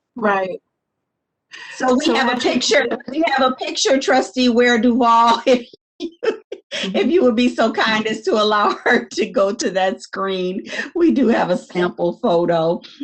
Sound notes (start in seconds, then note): 5.8 laughs